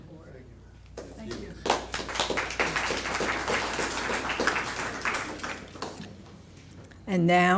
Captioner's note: applause